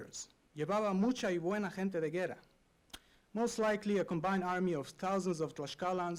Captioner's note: non-english speech